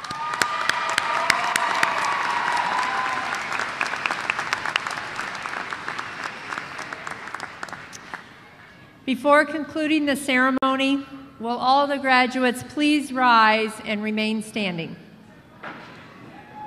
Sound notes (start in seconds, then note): 3.1 applause